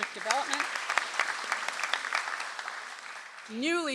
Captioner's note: audience applauds